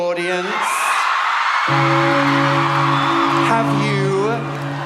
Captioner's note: church bell